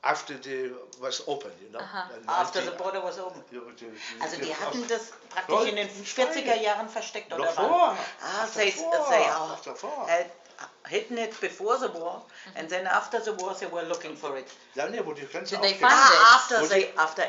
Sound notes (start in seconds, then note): 3.9 speaking in German